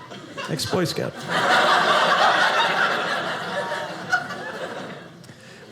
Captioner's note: audience laughing